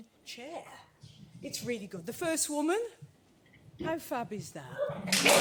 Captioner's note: applause